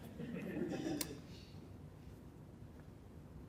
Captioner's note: chuckling